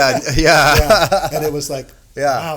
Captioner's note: laughing